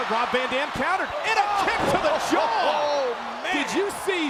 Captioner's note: laughs